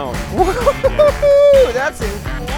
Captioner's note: excited yelling